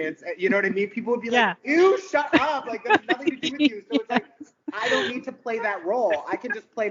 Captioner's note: laughing